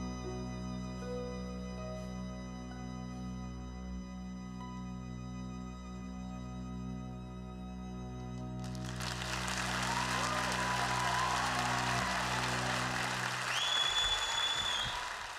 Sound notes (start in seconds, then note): 8.6 applause